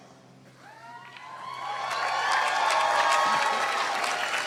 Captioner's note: cheering